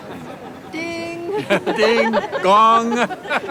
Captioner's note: laughing